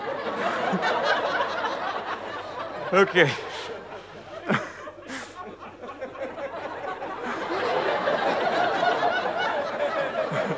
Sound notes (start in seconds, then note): 0.3 audience laughter; 3.3 small laugh; 7.4 audience laughter